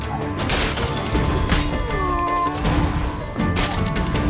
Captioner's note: wince; groan